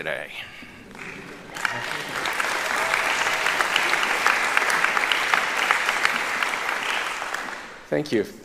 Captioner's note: applauding